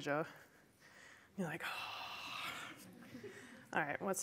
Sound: sighs

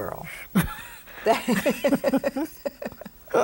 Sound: both laugh

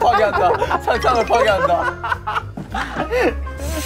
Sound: laughing at his own work

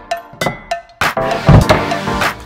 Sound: electronic music; glass clinks; coffee package thumps

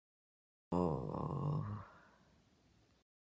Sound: groans in pain

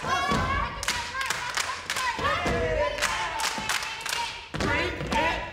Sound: group cheers; woman drowned out by claps

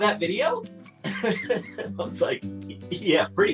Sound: laughs

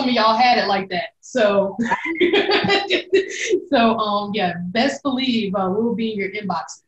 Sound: laughs

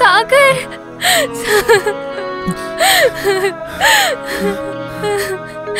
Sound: crying

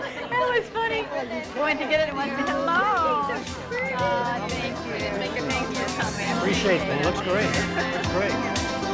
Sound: chatter continues

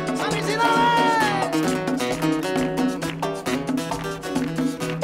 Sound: man speaking in Spanish

